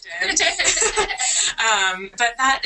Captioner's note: laughter